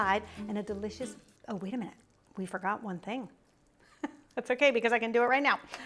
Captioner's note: chuckles